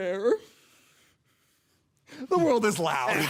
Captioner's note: soft breathing